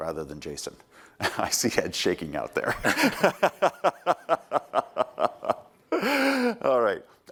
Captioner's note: laughter